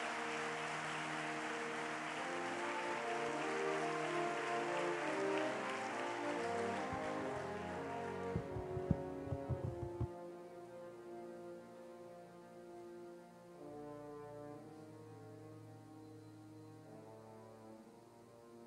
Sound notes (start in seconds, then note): 0.0 applause